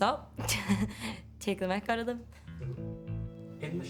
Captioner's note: laughs